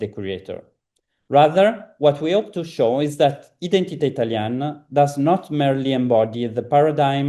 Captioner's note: italian